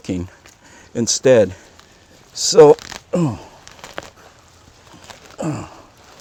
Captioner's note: grunt